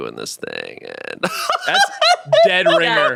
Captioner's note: laughs